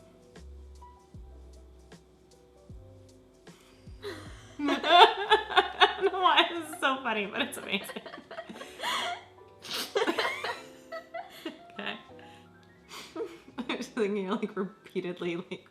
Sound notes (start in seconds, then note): 0.7 soft electronic music; 4.5 laughs; 9.7 laughs